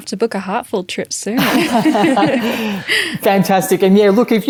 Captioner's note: laughs